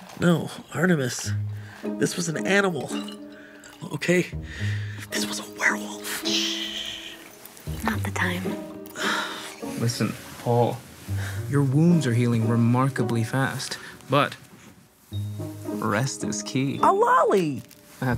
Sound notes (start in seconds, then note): 4.2 whispering; 9.1 sighing